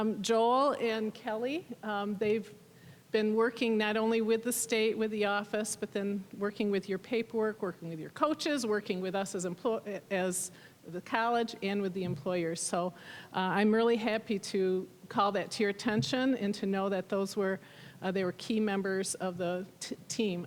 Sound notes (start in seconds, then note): none